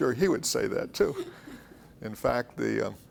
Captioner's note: laughs